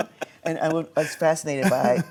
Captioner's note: laughs